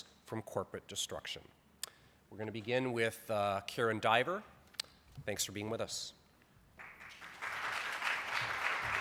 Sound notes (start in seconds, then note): 6.7 applause